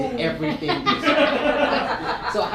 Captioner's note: audience laughing